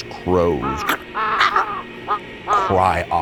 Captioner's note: crows cawing